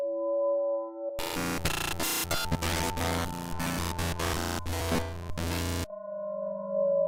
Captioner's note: loud glitchy noises